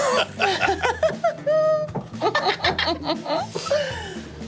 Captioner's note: group laughing